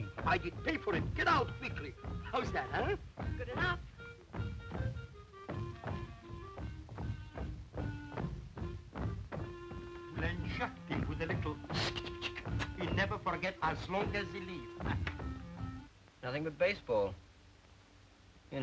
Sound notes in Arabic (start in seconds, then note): 5.0 أقدام تدوس; 5.0 تعزف الكلارينيت; 11.6 الهسهسة